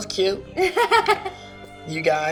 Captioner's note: laughing